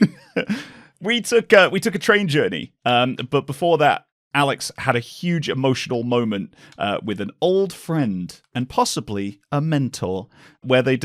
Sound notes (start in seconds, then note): 0.0 laughter